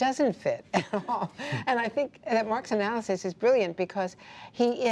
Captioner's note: laughter